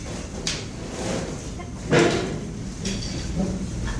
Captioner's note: chairs banging